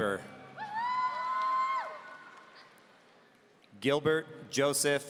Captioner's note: audience cheering